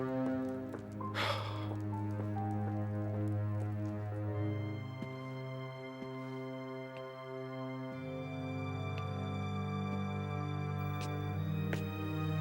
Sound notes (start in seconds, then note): 1.4 Alan sighs angrily; 4.5 ominous music